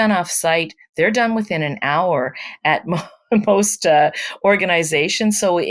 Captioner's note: laughs